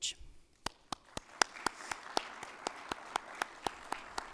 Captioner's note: audience claps